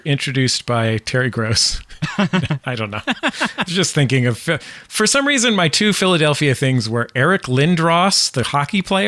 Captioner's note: laughter